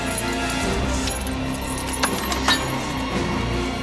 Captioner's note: keys jingling